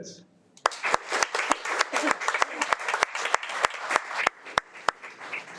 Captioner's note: audience applauding